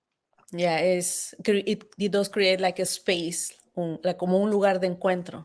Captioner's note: speaking Spanish